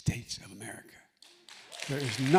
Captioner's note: applause